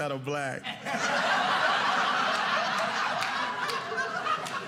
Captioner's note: audience laughing